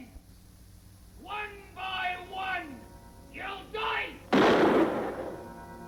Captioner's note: gun fires